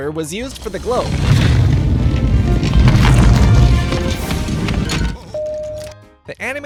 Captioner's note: low pitched object rolling